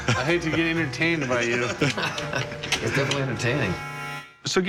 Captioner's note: laughs